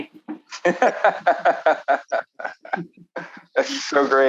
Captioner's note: laughing